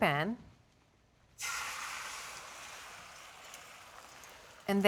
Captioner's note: sizzling